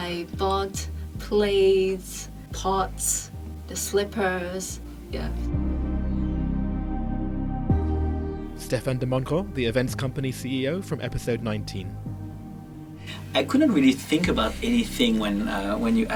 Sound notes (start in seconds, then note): 6.6 voiceover